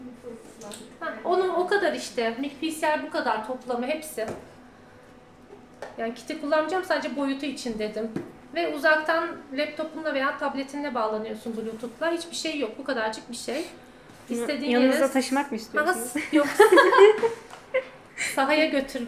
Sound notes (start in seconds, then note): 16.5 laughings